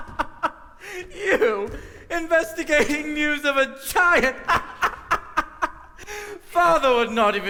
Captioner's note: laughter